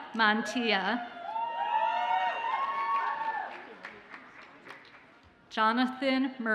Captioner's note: audience cheers and applauds